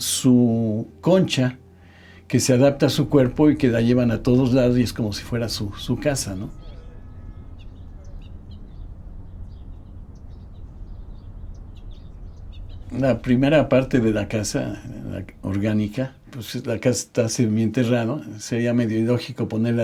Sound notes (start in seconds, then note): 8.2 birds chirping; 13.0 continues in Spanish